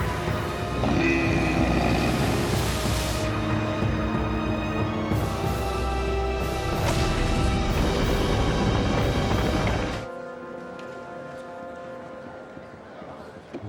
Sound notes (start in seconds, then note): 0.0 grunting